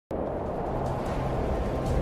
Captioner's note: wind blowing